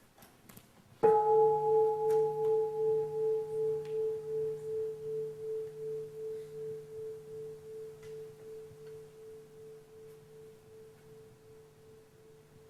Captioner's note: bell